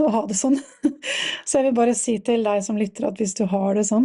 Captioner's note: laughter